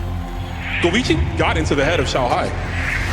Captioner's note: man, in English